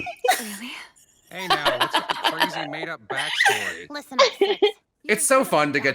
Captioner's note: laughter